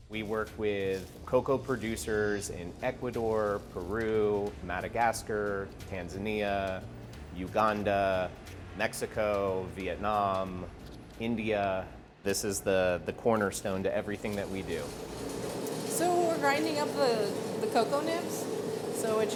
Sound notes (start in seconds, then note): 14.1 machine whirring